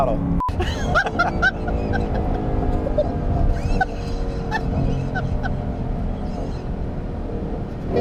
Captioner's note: laughing